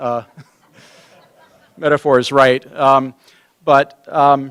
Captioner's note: laughter